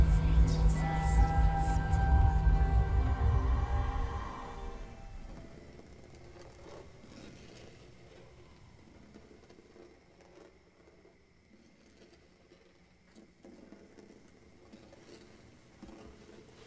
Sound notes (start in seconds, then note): 6.7 scraping